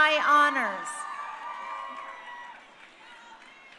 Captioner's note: crowd cheering